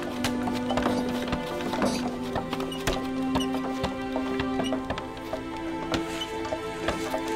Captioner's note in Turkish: Kütük yontma sesleri